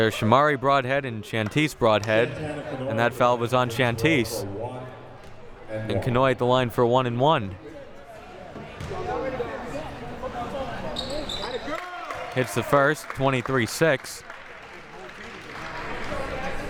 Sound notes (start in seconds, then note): 9.6 audience chattering